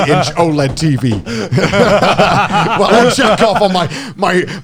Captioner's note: all laughing